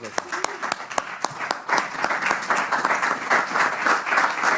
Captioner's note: applause